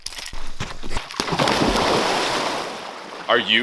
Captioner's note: record scratch; loud splash